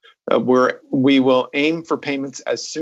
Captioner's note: speaking French